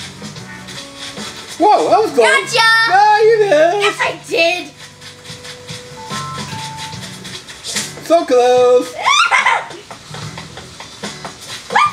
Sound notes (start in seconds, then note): 7.0 net whacks; 9.0 assistant giggles